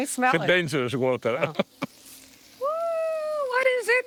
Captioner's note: laughing